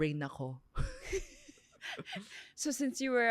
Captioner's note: laughs